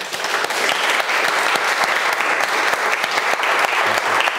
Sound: audience applauding

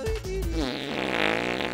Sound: farting

